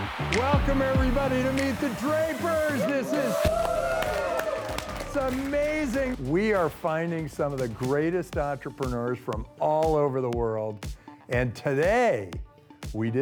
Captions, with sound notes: (upbeat music) Welcome everybody to Meet the Drapers. This is... (cheering) It's amazing. We are finding some of the greatest entrepreneurs from all over the world, and today we